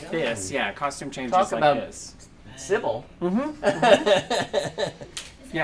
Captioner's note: laughter